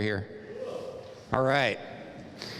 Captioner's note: cheering